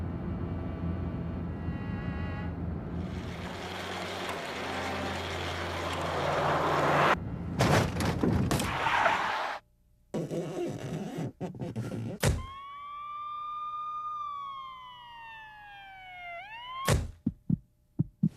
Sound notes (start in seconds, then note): 7.6 thud; 8.5 car skidding; 10.2 squeaking; 12.4 siren wailing; 12.8 car door closing; 17.3 car door closing; 17.9 heart pumping